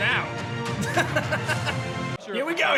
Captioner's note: chuckles